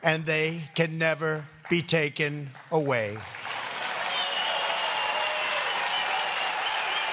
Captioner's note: applause